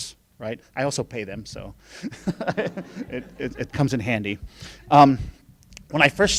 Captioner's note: laughing